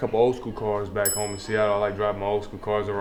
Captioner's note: bell sound